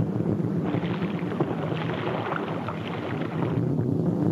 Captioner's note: water splashes